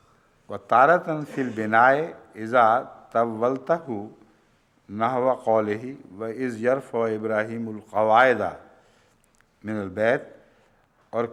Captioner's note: Arabic